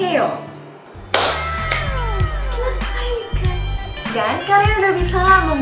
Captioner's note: clapping